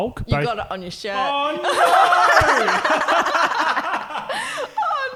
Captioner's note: laughing